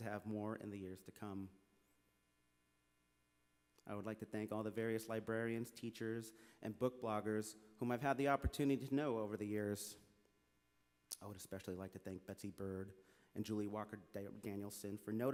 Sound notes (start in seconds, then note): none